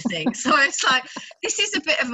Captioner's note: laughs